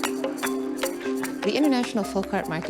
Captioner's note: cheering and applause